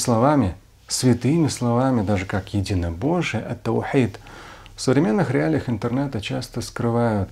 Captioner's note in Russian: говорит на арабском